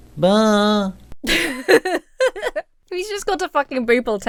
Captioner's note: Emma laughs